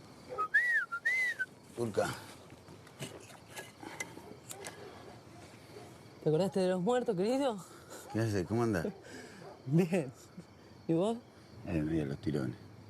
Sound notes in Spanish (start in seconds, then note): 6.0 Turca; 7.8 ríe; 9.5 Turca ríe